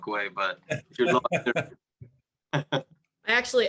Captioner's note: participants laughing